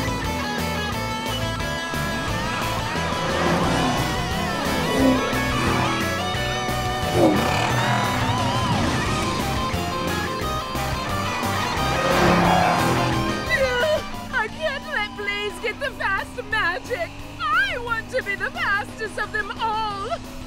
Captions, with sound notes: [groaning] I can't let Blaze get the fast magic. I want to be the fastest of them all.